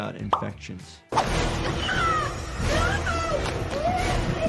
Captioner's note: persons screaming